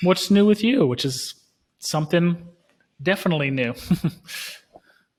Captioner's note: chuckling